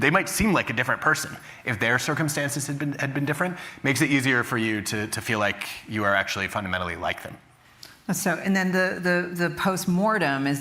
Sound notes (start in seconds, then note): none